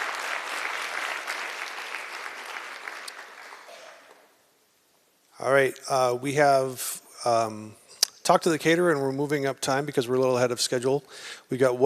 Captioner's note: applause